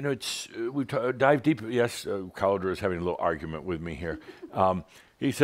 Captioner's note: giggles